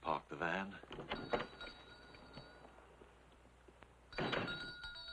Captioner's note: bell ringing